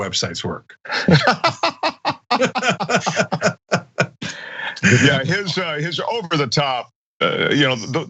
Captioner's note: laugh